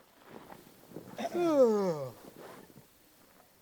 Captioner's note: yawns